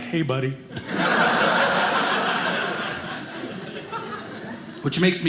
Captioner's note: audience laughing